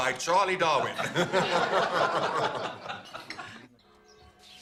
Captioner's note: laughter